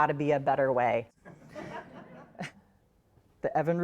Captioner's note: audience laughs